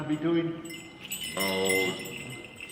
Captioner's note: bells chiming